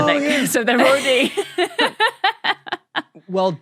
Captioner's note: laughs